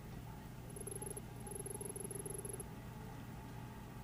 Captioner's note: text beeping